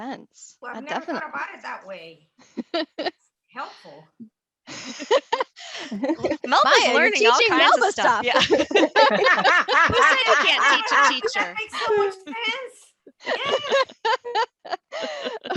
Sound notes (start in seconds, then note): 11.2 laughter